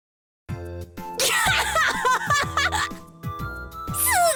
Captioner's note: laugh